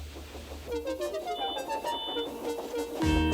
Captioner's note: toot toot